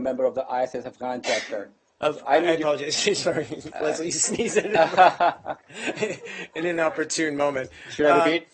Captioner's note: laughter